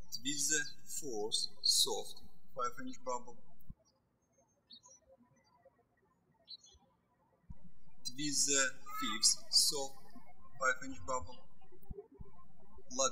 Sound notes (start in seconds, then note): 0.0 birds chirping; 3.9 birds chirping